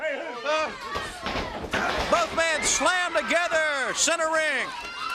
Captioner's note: crowd chatter